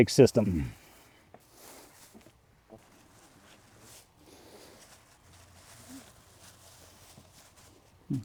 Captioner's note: silence